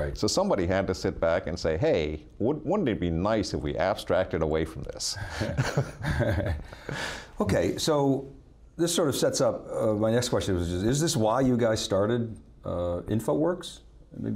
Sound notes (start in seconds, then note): 5.2 both laugh